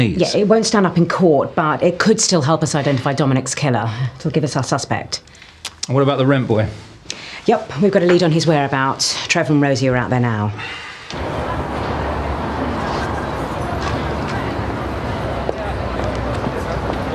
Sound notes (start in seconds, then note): 11.1 traffic whooshing